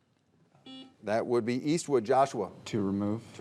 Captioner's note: buzzer beeping